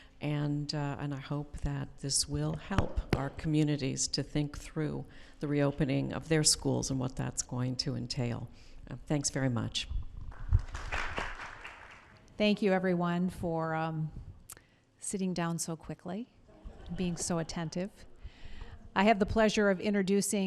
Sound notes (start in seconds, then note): 10.3 applause